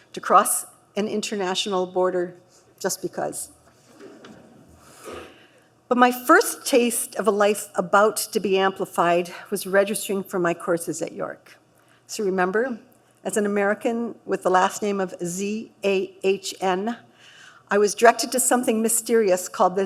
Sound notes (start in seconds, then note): 3.9 light laughter